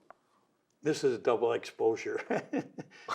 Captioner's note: laughter